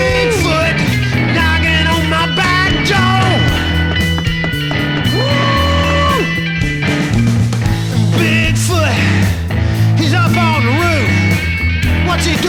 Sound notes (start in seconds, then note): 4.4 knocking at door